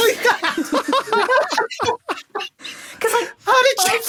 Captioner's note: laughing hysterically